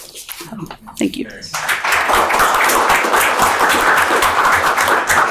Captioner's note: audience applauding